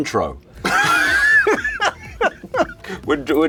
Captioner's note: laughter